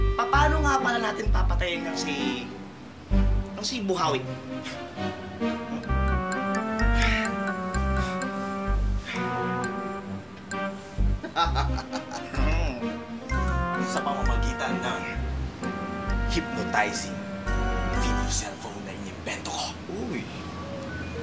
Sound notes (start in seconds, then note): 6.9 snarls; 11.2 laughs